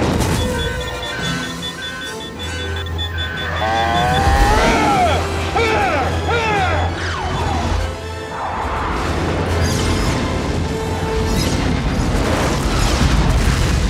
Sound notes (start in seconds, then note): 0.1 fire cloud explodes; 8.9 shots firing; 10.4 fire clouds exploding